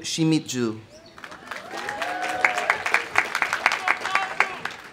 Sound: audience applauding; audience cheering

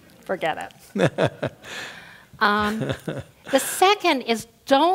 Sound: laugh; laugh

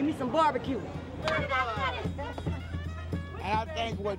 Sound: cheerful laughter

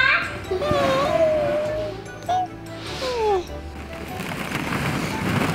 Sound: baby babbles quietly; balls shuffle around

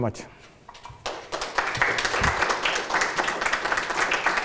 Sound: applause

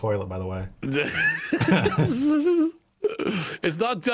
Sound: laughter

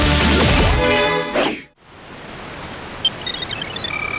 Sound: water flowing; computer sounds

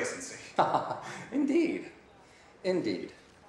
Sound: laughing

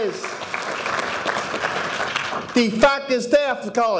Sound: audience applauding

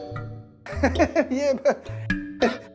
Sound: chuckles nervously

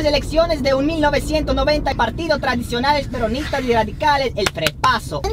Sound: talking in Spanish

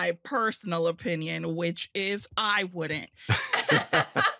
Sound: all laughing

